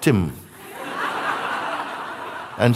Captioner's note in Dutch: gelach